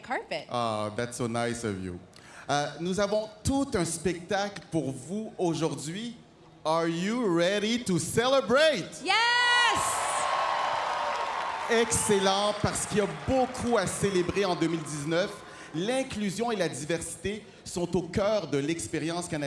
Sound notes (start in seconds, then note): 10.0 speaking French; 15.7 cheers and Applause